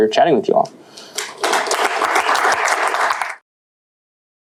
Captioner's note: applause